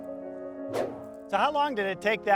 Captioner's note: air whooshes